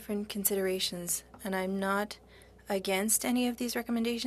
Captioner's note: speaking French